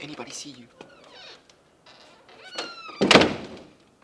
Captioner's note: door closing